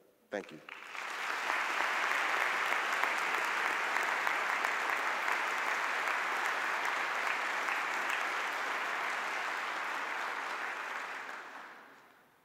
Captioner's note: audience applause